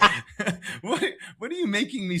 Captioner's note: laugh